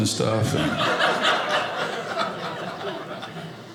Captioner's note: audience laughing